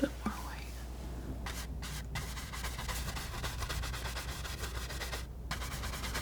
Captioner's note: scratching